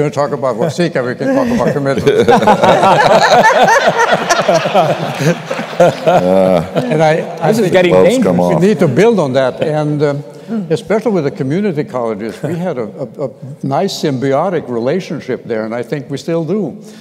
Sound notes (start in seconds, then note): 1.3 laughter